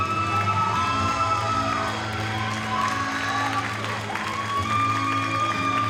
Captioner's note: audience cheers and applauds